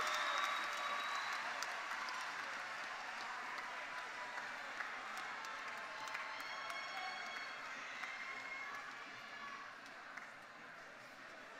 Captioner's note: cheers and Applause